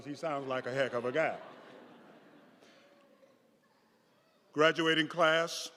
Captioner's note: audience laughing